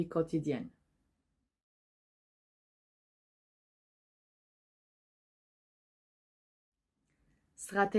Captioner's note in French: silence